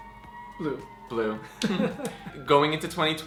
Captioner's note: laughs